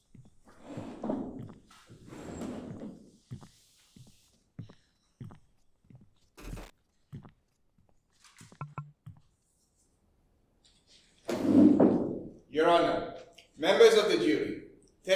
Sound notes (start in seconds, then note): 8.6 dull tapping